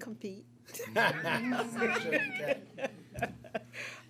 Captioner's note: laughter